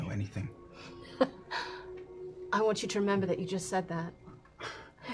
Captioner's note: laughing